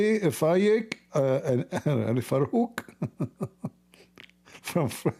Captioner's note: Ketawa